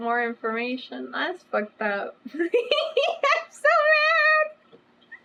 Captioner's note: laughs